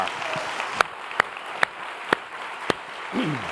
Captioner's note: applause